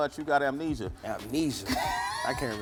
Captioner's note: laughter